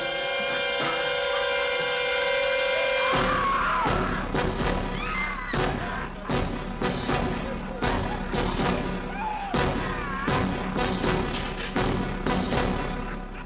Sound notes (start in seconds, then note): 7.0 men yelling; 9.0 woman screaming